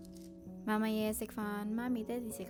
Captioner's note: Cantonese